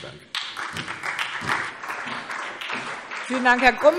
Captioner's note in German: Beifall SPD